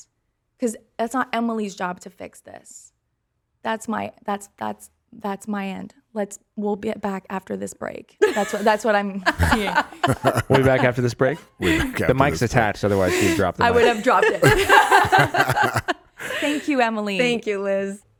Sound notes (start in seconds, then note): 8.9 everyone laughing; 14.3 laughing